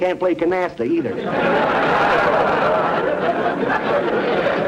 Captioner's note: audience laughter